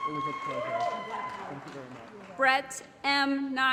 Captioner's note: applause & Cheering